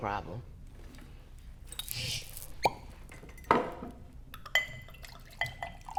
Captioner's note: uncorks bottle and pours drink